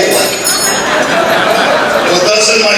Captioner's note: laughter